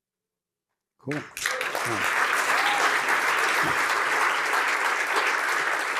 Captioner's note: applause